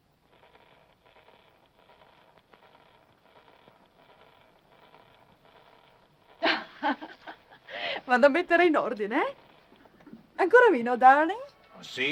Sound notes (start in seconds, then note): 6.4 woman laughing; 8.3 speaking foreign language